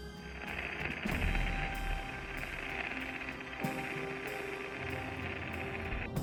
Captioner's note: static